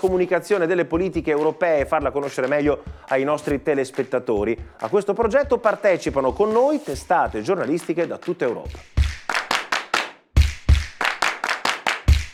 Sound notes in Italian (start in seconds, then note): 7.6 Applauso